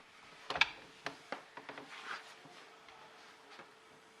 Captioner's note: door opens and shuts